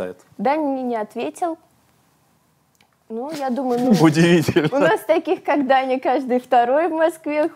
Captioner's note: laughs